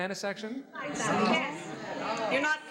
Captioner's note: audience chatters